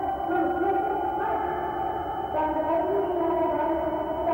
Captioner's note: humming